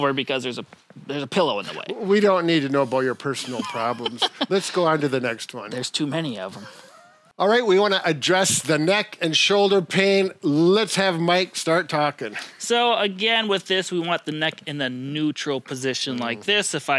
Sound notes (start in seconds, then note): 3.4 laughing